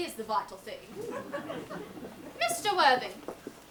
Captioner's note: audience laughs